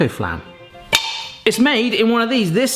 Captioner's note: tin clatters